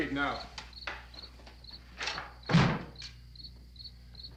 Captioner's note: insects chirping